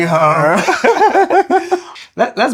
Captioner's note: laughter